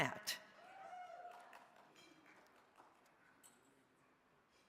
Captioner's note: crowd cheering